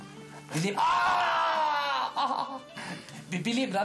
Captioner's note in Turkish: Bağırıyor